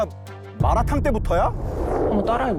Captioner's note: sound effect: sudden realization